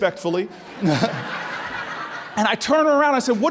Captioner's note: laughing